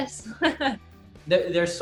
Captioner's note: laughs